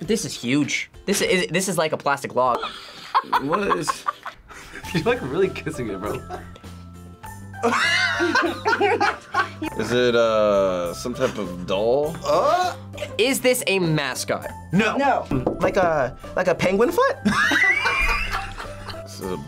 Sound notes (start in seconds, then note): 2.6 laughs; 7.6 both laugh; 17.2 group laughs